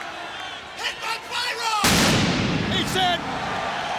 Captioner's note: pyro explodes